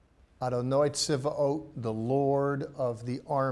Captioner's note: speaking in Hebrew